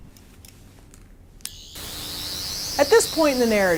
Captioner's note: Sonic Screwdriver sound with static noise